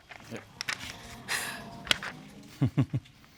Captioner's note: chuckles